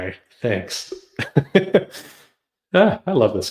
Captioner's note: laughs